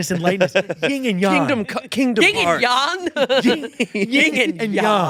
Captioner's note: laughs